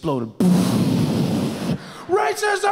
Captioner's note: imitates explosions